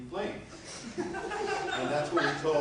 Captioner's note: laughter